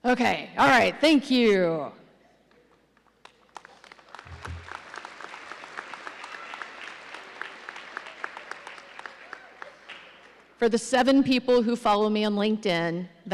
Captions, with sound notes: Okay, all right, thank you. (audience applauding) For the seven people who follow me on LinkedIn,